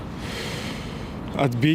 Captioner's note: sighs